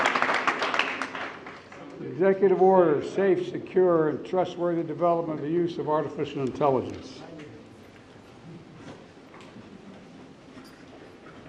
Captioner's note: applause